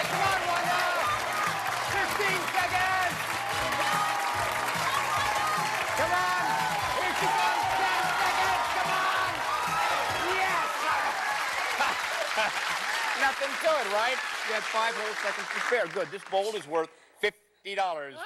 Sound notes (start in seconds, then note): 3.9 cheers and applause; 11.5 laughs